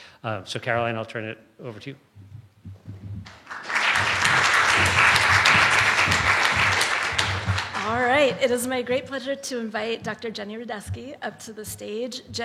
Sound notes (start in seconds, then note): 3.2 applause